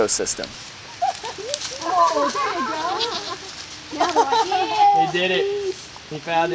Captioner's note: people laughing